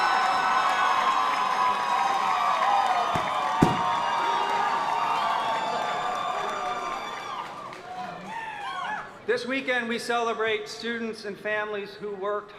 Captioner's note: applause